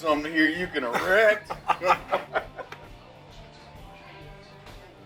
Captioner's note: brothers laugh